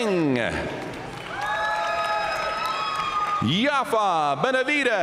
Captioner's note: audience cheering and applauding